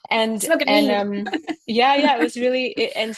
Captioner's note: mumbling